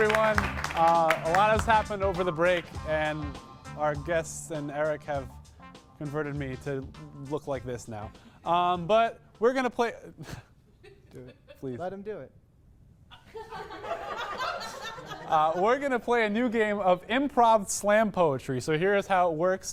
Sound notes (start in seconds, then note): 10.7 laugh; 13.1 individual audience laughter